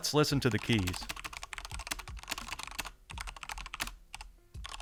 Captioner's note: keyboard clicking